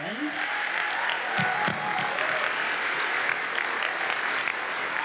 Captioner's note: audience cheers and applauds